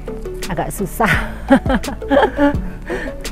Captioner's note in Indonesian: tertawa